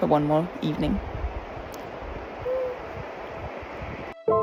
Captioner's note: happy noise